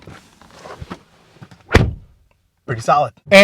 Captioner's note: closes door